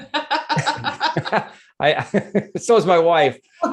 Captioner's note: everyone laughs